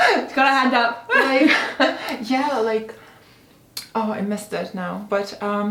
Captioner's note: both laughing